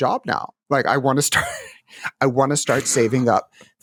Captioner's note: laughs